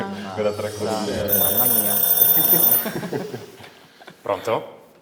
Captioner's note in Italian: squilla il telefono